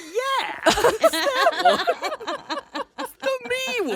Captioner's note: all laughing